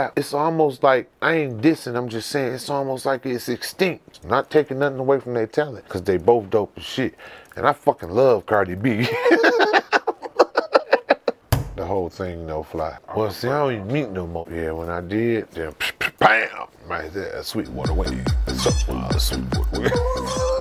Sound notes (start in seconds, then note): 9.0 laughing; 17.6 pulsing club music